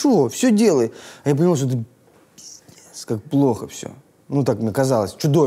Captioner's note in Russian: шепотом